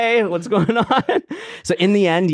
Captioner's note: laughs